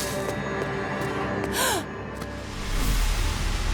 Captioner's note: gasping